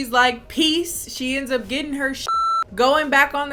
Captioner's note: beep